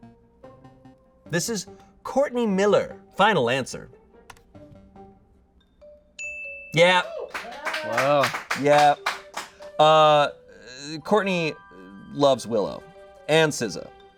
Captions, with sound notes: This is Courtney Miller, final answer. (bell dings) Yeah. (audience cheering) - Wow. - Yeah. Courtney loves Willow and SZA.